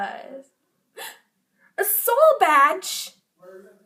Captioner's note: gasp!